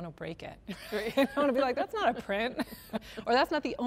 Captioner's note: laughter